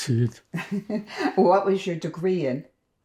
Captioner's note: laughing